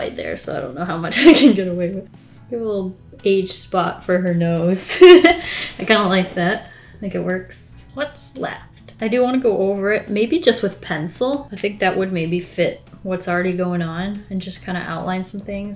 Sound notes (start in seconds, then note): 5.0 laughs